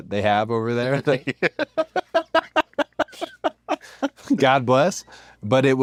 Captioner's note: laugh